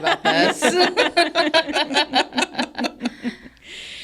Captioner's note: everybody laughs